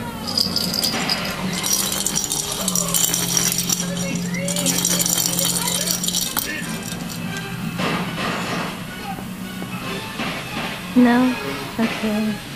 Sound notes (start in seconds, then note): 0.0 cat toy bell jingling; 4.4 more jingling